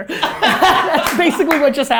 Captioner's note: laughter